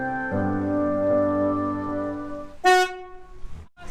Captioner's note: loud beep of horn